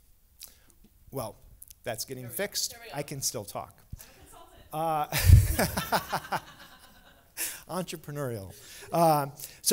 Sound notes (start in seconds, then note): 5.1 laughter